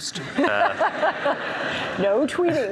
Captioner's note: audience laughs